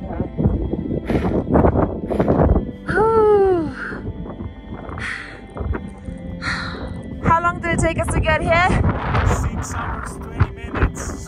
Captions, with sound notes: I'm just gonna do this for a second. (wind blowing) Woo!